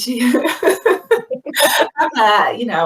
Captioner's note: laughing